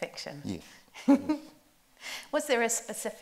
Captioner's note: chuckles